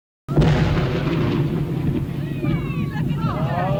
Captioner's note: explosion; distant screaming